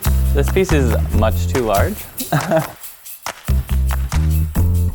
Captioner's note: laughs